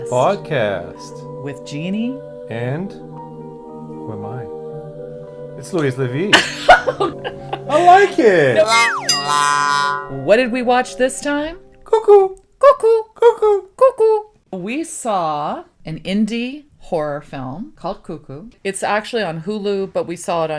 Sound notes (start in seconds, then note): 6.4 laughs; 8.6 wah-wah sound effect